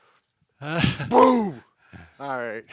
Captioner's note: mimics a boom